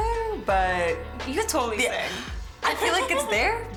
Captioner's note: laughs